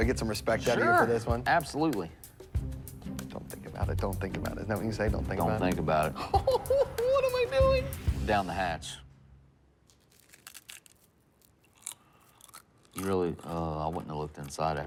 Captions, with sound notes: Do I get some respect out of you for this one? - Sure. Absolutely. (relaxing music) - Don't think about it, don't think about it. Isn't that what you say? Don't think about it? - Don't think about it. (nervous laughing) - Ooh ooh, what I'm I doing? - Down the hatch (crunchy chewing) - You really?